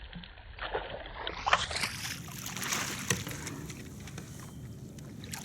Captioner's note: water splashes